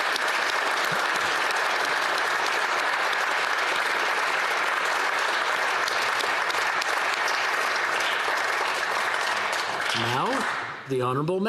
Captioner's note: applause